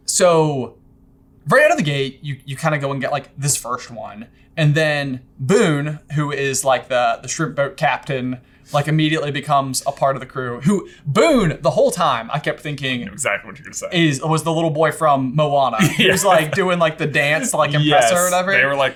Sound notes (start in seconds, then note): 15.8 laughing